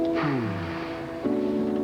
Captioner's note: deep sigh